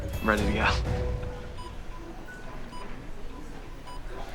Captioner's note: beeping